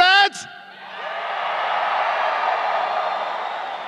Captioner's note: crowd cheering